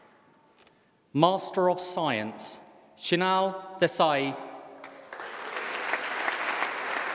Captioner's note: applause